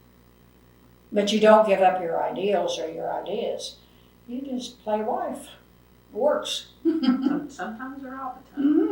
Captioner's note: laughs